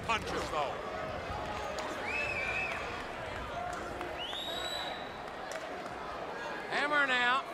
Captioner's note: crowd cheering